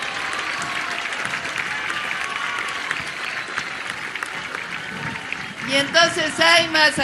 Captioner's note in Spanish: aplausos